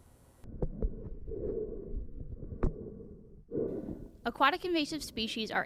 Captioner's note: gentle water bubbling